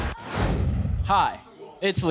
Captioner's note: whooshing